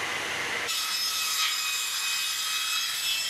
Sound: sawing noises

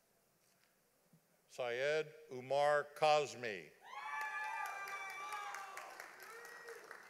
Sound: audience applauding

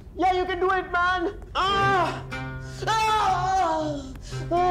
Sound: screaming

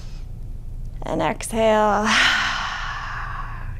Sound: deep inhaling; deep exhaling

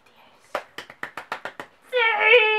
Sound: clapclapcalpcalpcalp

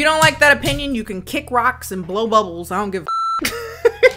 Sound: beep; laughs

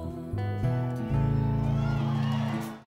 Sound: crowd cheering

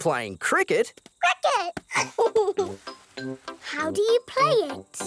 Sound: giggles

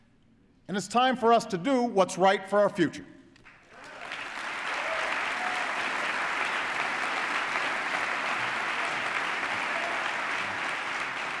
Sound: applause

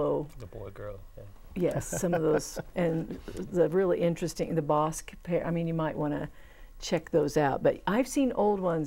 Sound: laughing

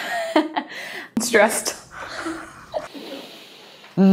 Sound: laughs

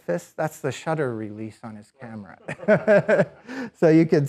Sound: laughs

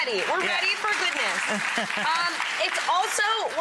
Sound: audience applause

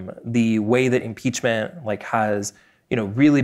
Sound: none

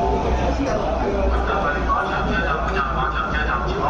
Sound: Cantonese

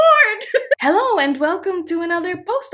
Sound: chuckling

